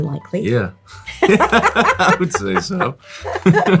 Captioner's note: both laughing